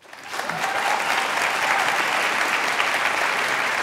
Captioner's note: applause